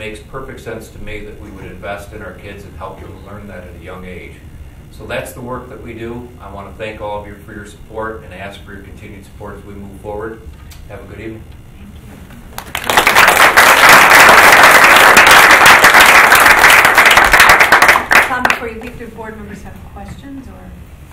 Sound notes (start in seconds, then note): 12.5 group applauding